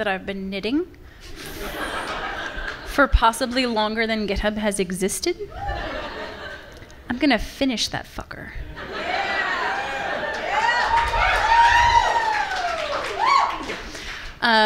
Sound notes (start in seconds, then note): 1.3 audience laughing; 5.4 laughter from the audience; 9.0 audience cheering and applauding